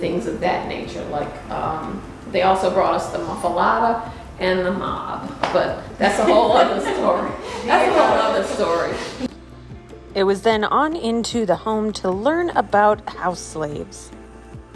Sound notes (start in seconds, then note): 9.5 laughter